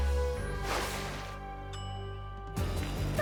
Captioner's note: ding